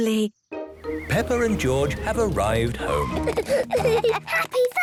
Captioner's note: children giggling